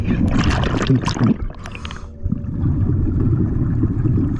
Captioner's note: bubbles bubbling